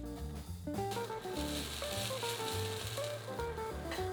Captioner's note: sizzling